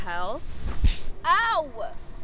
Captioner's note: slap splats